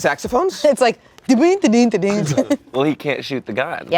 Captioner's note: vocalizes